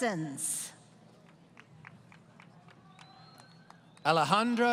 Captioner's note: applause